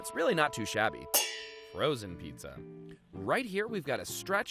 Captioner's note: metal clangs